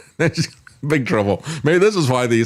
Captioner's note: laughs